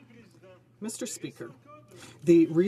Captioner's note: some Applause